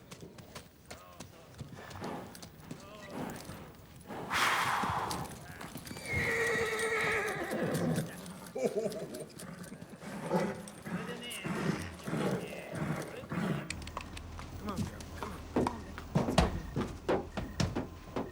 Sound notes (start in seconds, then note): 4.1 strong exhale; 6.4 horse neighing; 8.5 horse handler laughs heartily; 11.2 hooves thudding; 12.6 horse snorting